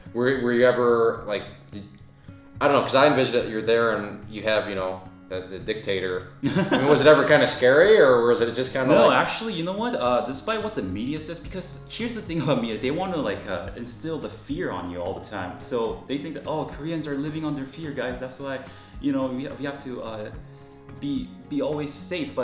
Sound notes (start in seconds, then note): 6.4 laughing